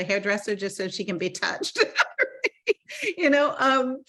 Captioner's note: laughing